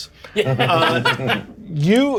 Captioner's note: players chuckle